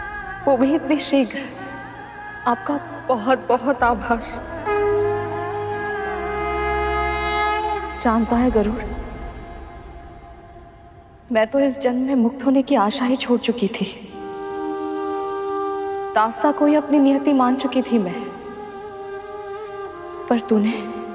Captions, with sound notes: That too so soon. I'm grateful to you! [conch blows] Do you know, Garud? I didn't hope to be free in this life. I had accepted bondage as my destiny. But you